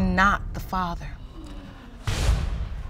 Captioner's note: audience gasps